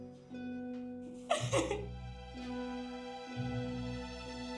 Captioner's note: crying; soft dramatic music